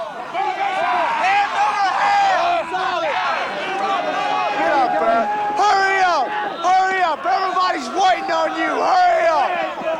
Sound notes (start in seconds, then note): 2.1 shouting